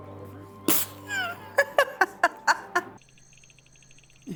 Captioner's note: laughing